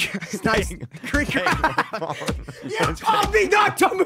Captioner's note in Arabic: يضحك